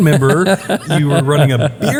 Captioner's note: laugh